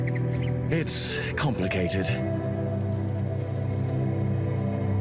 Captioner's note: sighing